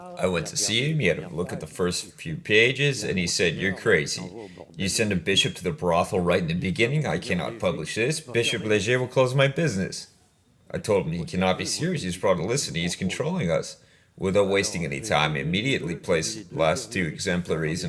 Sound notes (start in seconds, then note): 11.4 laughs